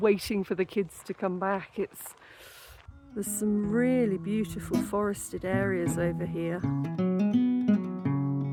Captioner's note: deep breath; african blues guitar